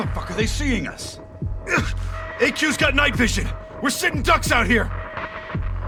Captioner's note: grunts